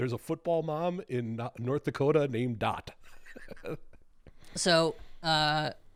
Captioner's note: chuckles